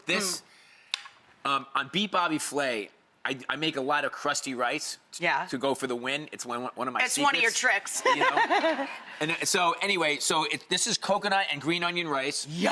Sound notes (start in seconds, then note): 8.0 Rachael laughs